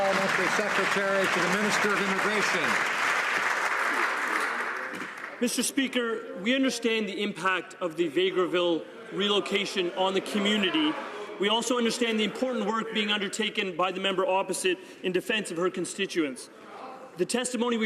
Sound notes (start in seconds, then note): 2.1 some Applause